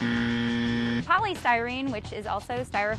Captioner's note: buzzer sounds